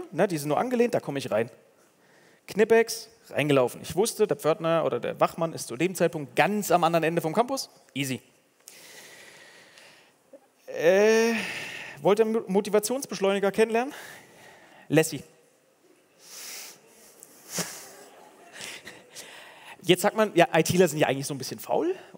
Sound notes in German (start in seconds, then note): 16.0 Gelächter